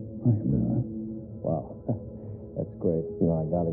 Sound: exhales

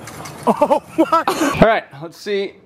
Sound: men laughing

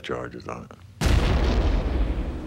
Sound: boom

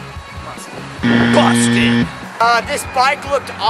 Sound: buzz sound

